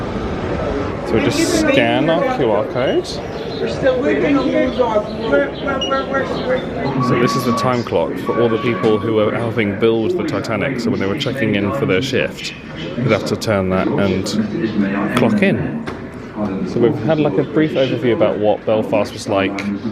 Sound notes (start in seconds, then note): 2.9 light chatter; 2.9 machine beeping